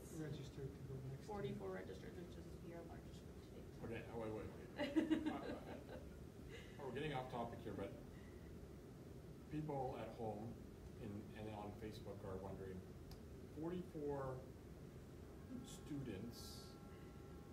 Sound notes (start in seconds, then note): 4.7 laughs